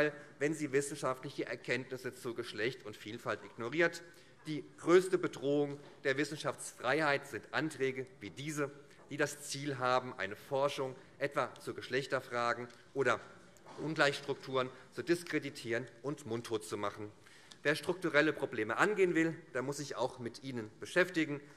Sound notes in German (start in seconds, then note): none